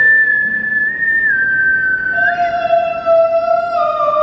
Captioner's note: whistling